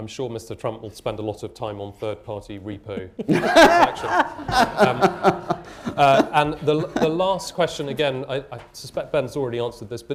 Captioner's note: laughter